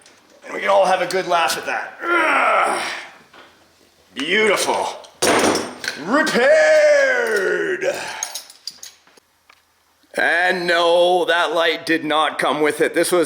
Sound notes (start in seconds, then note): 1.9 grunts; 5.0 tools clanking